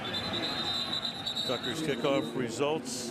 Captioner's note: whistles